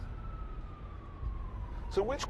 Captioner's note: siren wails in distance